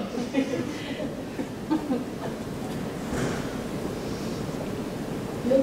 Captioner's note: laughter